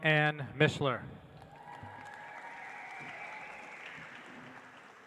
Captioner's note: audience applauds